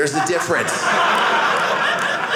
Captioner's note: audience laughing